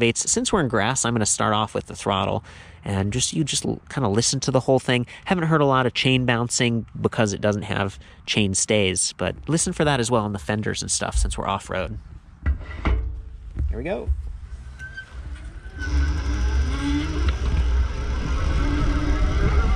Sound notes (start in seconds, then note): 12.4 metal scraping; 15.1 electric buzzing